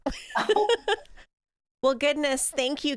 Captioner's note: both laughing